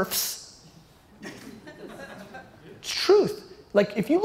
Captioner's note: audience laughter